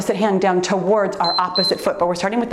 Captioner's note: timer beeps